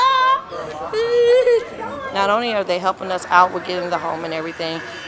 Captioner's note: child laughing